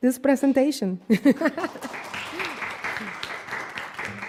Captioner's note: applause